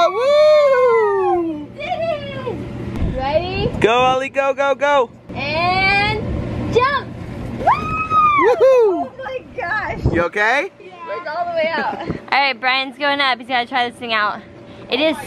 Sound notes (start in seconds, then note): 0.0 cheering; 7.6 cheering